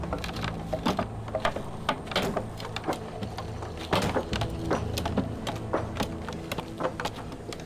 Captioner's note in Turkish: Çekiç sesleri